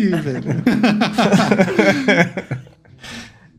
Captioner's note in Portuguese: risos